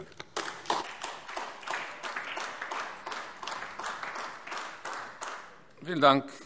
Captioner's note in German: Beifall AfD